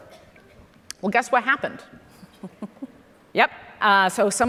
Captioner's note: chuckles